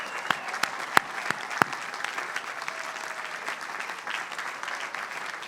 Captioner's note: applause